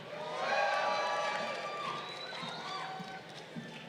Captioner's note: crowd cheering